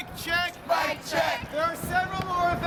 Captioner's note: crowd Responds